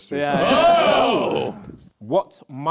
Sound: crowd booing

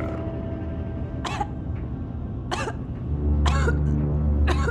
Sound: coughing

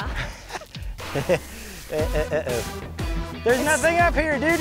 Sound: laughs

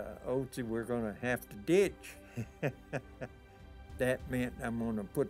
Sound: laughing

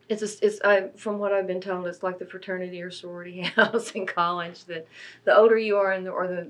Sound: laughs

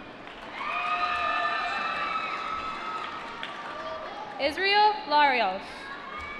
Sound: applause

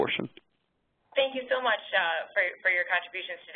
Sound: voiceover

